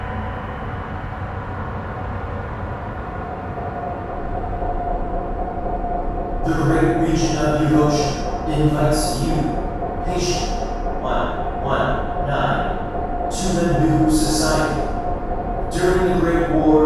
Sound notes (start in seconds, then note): 6.9 male Headphones Voice